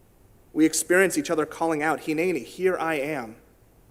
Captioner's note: in Hebrew